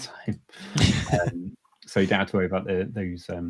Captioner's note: laughing